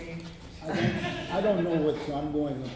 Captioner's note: laughter